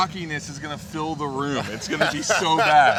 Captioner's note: laughing